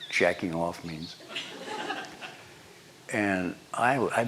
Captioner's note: laughter